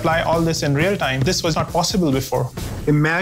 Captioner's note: ball bouncing